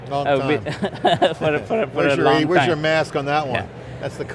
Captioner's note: laughs